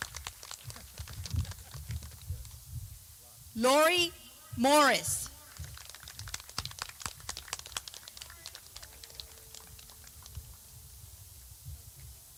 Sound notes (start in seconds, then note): 0.5 clapping